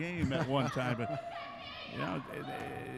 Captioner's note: laughing